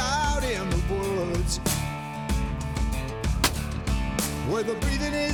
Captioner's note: gunshot